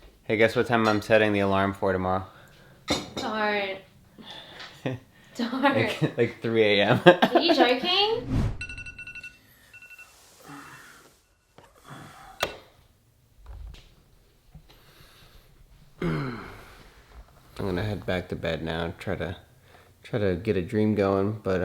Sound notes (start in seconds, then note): 8.1 air whooshes; 8.4 alarm beeping; 11.7 breathing; 12.5 switch clicks; 16.0 groans